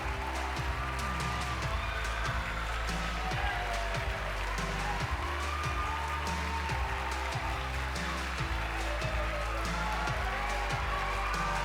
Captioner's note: applause